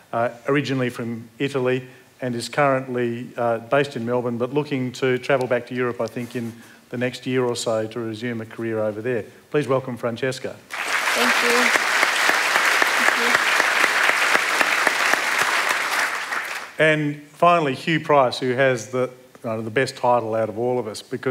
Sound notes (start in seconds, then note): 10.7 applause